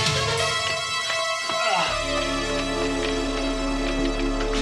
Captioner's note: Travis grunting